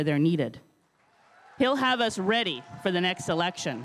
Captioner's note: crowd cheering and applauding